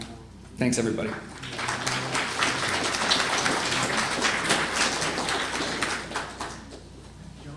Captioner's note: applause